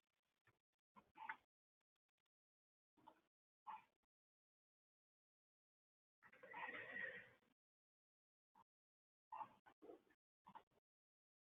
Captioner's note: silence